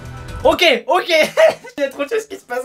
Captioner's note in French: rires